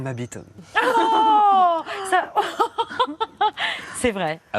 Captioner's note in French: cris d'indignation & rires